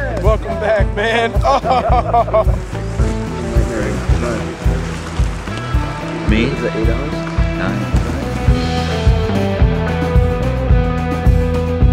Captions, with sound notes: - Yes, welcome back, man. (murmurs) - Me? - Was that eight hours? - Nine. (dramatic music)